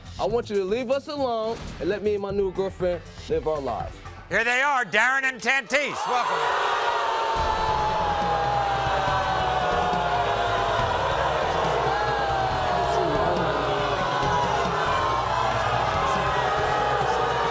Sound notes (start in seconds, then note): 7.0 crowd booing; 7.3 aggressive percussive music; 12.9 booing drowns out